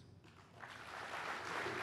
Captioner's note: clapping